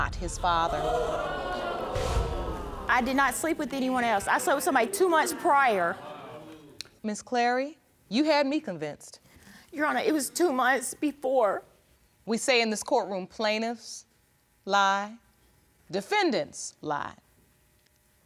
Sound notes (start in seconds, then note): 2.1 audience exclaiming